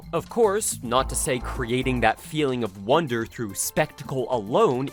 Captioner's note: none